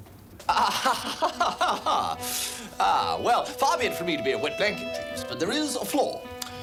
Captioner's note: laughing